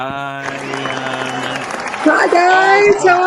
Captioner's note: audience applauding; audience cheering